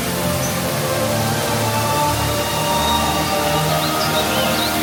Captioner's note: pastoral orchestral music continues; water running